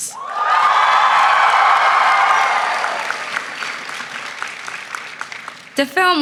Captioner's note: applause